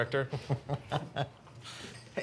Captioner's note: Blue and Jerry laugh